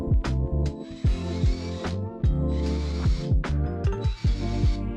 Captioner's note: machine whirring